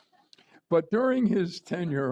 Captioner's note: laughter